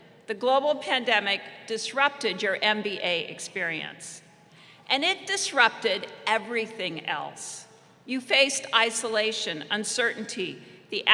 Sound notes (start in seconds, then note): none